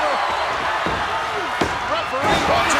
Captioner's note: hand pounding